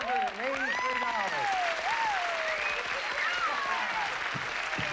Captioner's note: cheering and applause